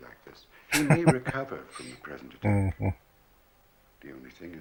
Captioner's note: chuckling